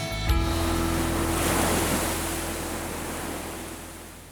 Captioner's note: waves crashing